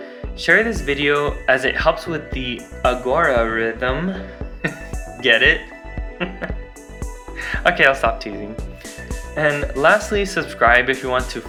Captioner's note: laughs